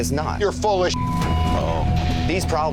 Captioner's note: beep